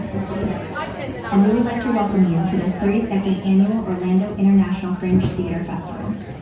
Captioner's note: voiceover